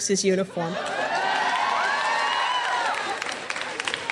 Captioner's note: cheering